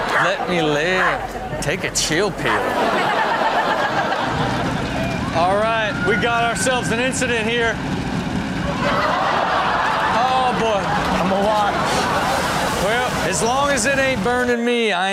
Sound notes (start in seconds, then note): 0.0 audience laughs; 2.2 everyone laughs; 7.9 fire crackling; 8.4 audience laughs